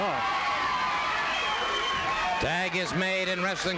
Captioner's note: crowd cheering